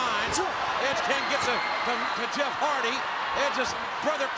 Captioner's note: audience cheering